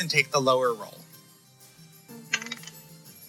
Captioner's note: dice rolling sounds